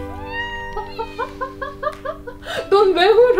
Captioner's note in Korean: 웃음